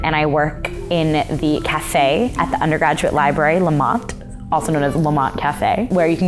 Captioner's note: none